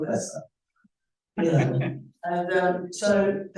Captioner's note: laughing